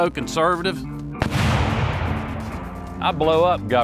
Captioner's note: loud bang